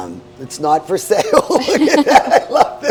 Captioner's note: laughs